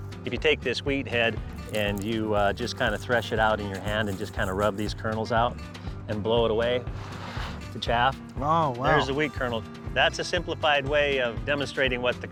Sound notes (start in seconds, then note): 7.1 blowing